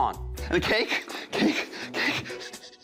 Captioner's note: breathes shakily; laughter